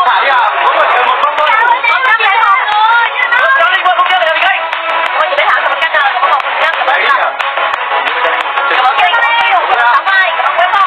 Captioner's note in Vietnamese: Vỗ tay